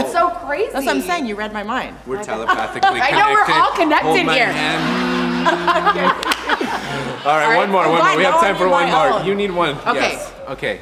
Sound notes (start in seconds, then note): 4.0 all humming together, laughing